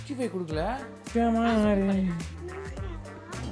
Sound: humming a song

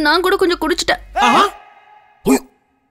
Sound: gasps

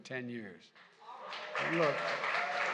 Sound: applause

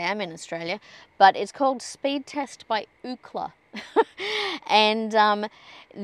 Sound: chuckles

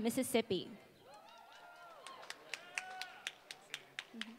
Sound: applause

